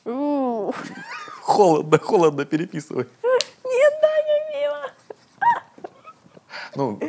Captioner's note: whispers